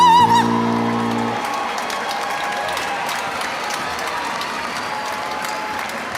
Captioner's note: audience cheering and applauding